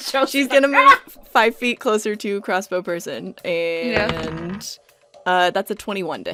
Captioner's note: laughing; dice thunks